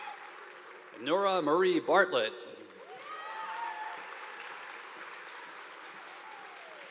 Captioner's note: audience applauding